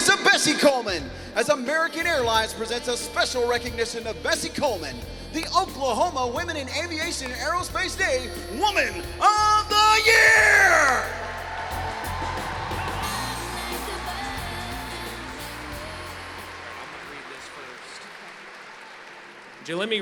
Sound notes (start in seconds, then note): 10.2 applause; 12.5 singing